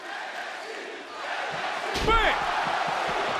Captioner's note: crowd chants "nxt"